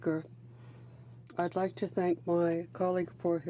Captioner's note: speaking French